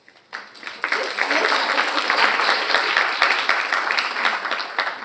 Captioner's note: audience applauding